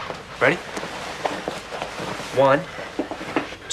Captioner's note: sheets rustling